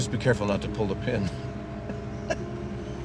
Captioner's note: chuckles